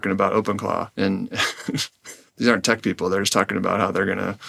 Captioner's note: laughs